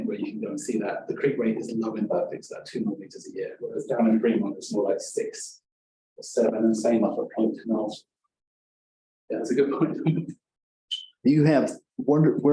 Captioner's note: chuckling